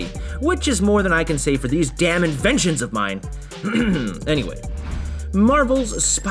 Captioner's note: ahem